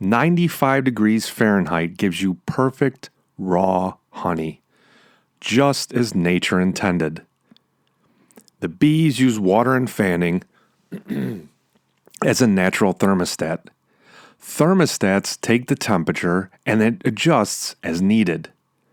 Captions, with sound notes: 95 degrees Fahrenheit gives you perfect raw honey just as nature intended. The bees use water and fanning (clears throat) as a natural thermostat. Thermostats take the temperature and it adjusts as needed.